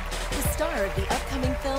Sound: cheers and applause

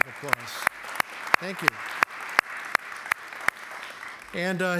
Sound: applause

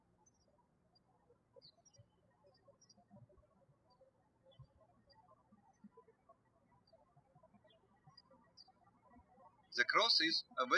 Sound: birds chirping

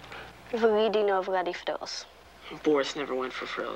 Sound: Molly speaking in foreign language

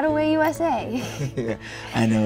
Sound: Michael laughs

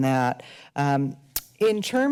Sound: smacks lips

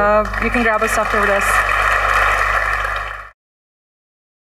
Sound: applause

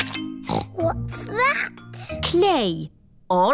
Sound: snorts

